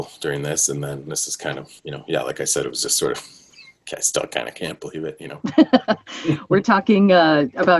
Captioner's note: laughter